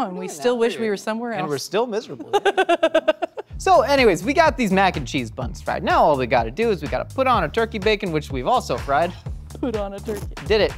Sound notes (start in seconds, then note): 2.2 laughing